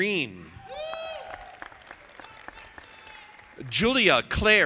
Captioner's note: audience applauding